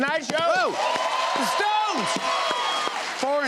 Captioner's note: cheers and applause